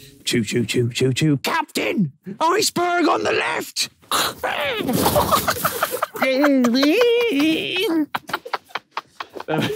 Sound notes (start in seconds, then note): 4.2 Tobi laughing; 4.2 Harry screeching